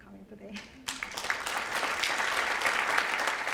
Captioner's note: applause